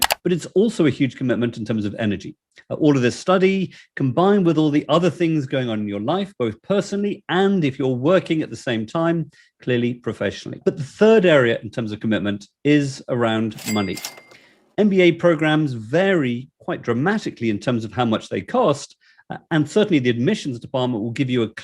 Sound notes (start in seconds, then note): 13.5 cash register bell ringing